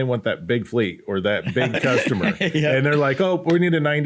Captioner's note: laughs